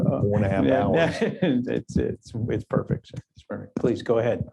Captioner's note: laughs